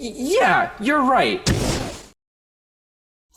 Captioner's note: fwoosh